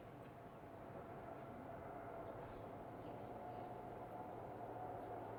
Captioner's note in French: Bruit de train